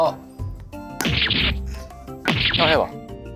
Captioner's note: slap